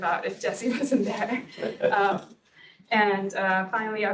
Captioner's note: laughs